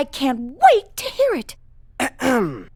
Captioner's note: clears throat